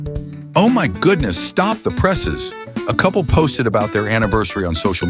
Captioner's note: mock enthusiastic voice